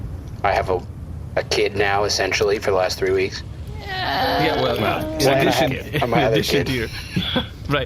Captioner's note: doubtful noises